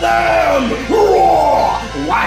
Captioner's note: Illager battle cry